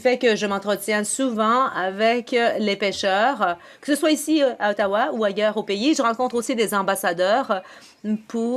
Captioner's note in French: voix de l'interprète